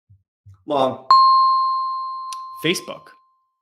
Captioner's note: bell dings